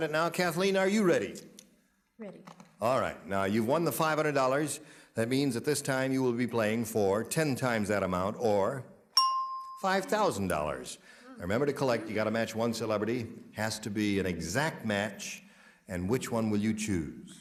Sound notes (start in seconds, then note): 9.1 bell dings